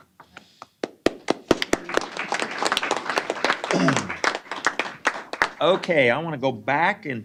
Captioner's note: applause